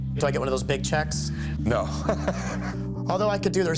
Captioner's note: laughs